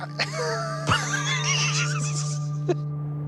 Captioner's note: both laugh